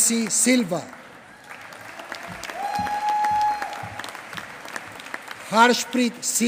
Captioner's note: applause